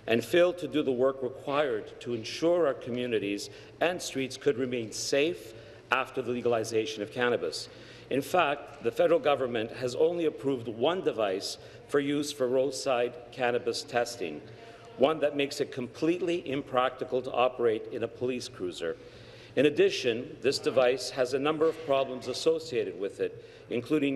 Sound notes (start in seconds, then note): none